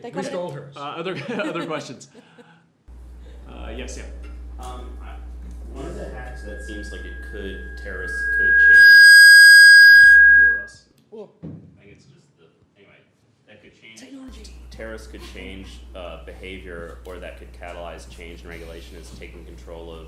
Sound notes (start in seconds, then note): 9.2 audio feedback